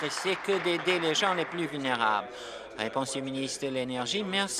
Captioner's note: applause